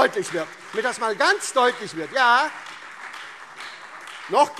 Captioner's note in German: Beifall SPD, Freie Demokraten und vereinzelt CDU